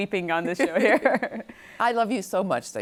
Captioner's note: laughing